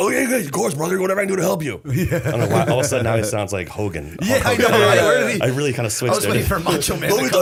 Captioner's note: laughter